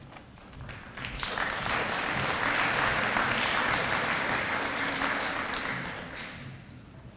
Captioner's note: audience applause